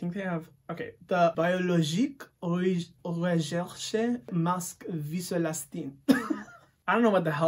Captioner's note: laughs